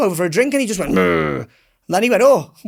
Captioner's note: imitates growl